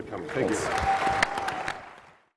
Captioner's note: audience cheers